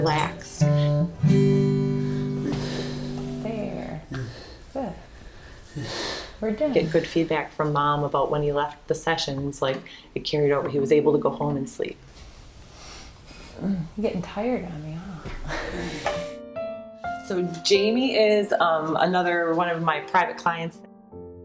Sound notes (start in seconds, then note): 0.0 guitar strums; 2.0 breaths out calmly; 13.6 groans sleepily; 15.2 chuckles